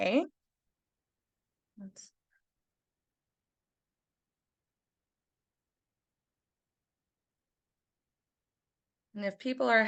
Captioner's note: silence